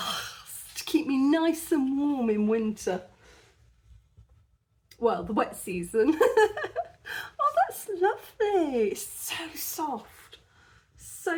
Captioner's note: laughing